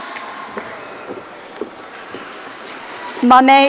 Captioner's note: audience cheering